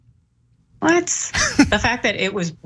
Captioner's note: laugh